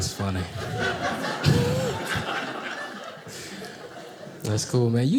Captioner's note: audience laughing